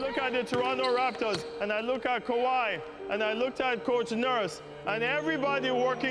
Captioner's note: chants